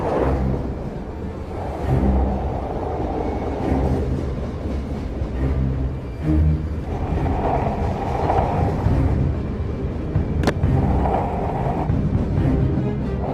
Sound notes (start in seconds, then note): 0.0 skateboard rolling; 9.2 train rumbling